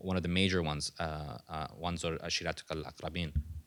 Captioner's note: non-english speech